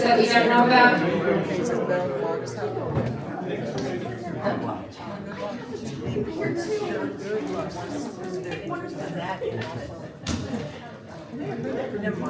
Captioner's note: crowd chattering